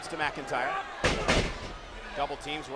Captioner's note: blows thudding